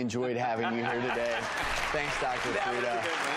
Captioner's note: audience laughs and applause